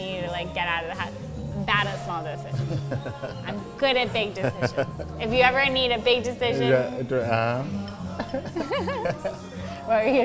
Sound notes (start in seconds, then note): 4.1 laughs; 8.1 both chuckling